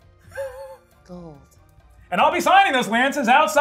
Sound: chuckles

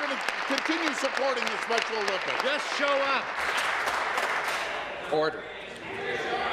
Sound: applause

